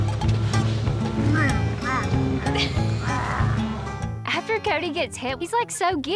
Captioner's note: grunts